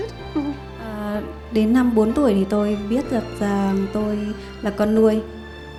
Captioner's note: woman translating to Vietnamese